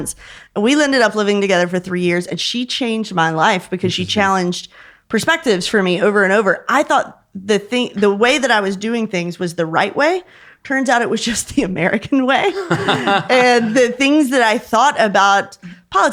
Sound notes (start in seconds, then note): 12.4 chuckling; 12.5 laughing